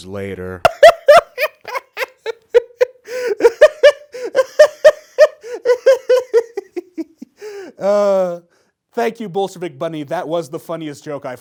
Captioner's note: finishes laughing